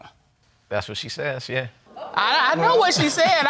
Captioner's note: audience groans